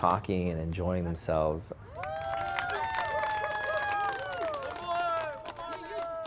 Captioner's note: audience clapping and cheering